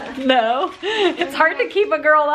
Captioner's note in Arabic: تضحك